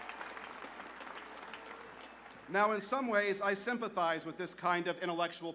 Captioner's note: applause